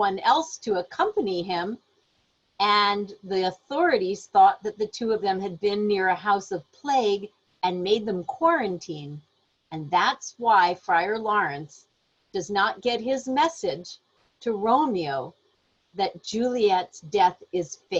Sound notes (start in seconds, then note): none